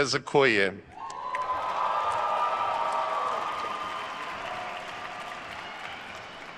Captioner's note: attendees cheering and applauding